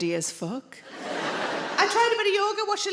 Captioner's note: audience laughing